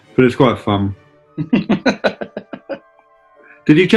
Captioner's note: chuckling